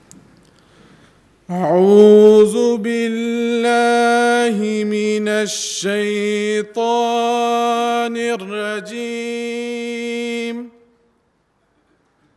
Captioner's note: recitation of the Holy Quran in Arabic